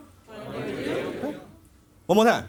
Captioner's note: audience Members In Unison